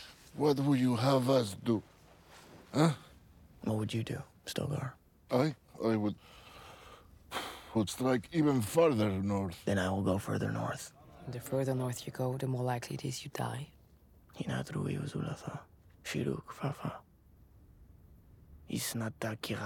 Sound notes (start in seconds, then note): 7.3 exhales sharply